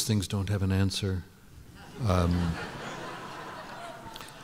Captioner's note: laughter